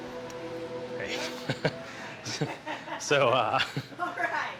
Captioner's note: chuckles